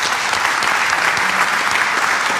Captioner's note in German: Applaus